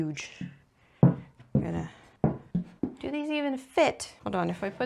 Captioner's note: cones stamping the table